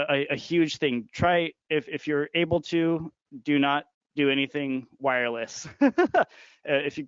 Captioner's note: laughing